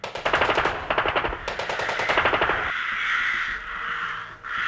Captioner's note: automatic guns firing